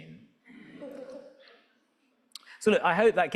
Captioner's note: audience laughing